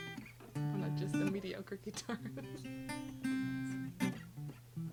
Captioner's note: chuckles; chuckles; guitar thrumming